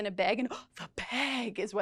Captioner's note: gasps